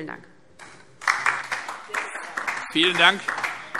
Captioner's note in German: Beifall DIE LINKE